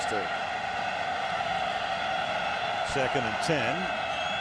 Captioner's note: cheering